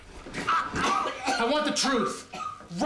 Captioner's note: coughing